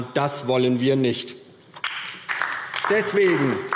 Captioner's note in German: Beifall DIE LINKE